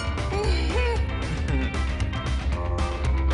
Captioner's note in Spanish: Ríe